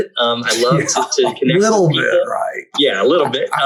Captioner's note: laughs